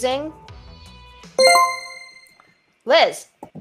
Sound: chime rings

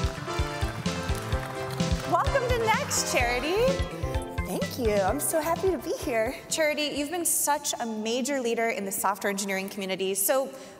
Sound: applause

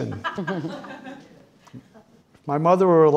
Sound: audience laughing

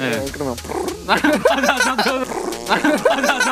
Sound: farting

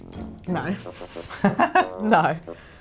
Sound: laughs

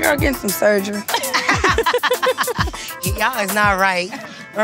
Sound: laughing

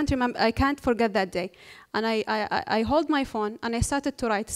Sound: none

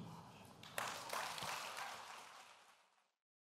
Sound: audience clapping

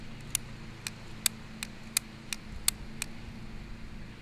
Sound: lighter clicking

